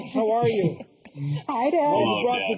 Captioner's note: laughing